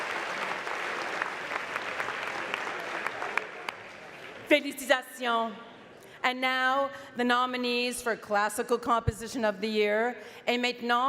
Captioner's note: speaking French